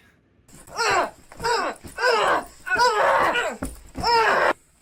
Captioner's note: both grunting